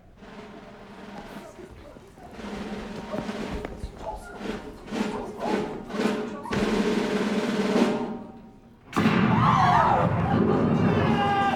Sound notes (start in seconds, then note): 0.1 drumbeat; 9.0 canon booms, ladies shriek; 10.8 laughter, whistle blows